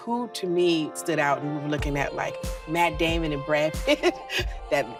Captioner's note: chuckles